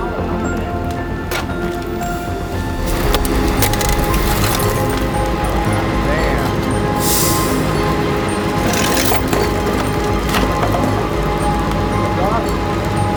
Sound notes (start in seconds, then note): 3.7 car parts creaking; 10.4 car part thuds